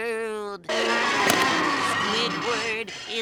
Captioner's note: screeching